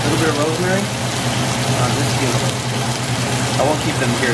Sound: steak sizzling

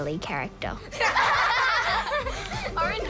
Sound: all laugh

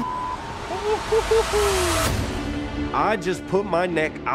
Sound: beep; man laughing

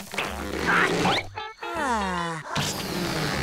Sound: sighing

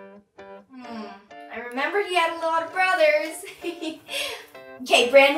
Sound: laughs

